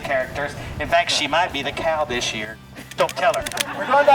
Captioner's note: laughs